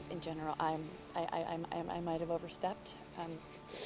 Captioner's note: stutters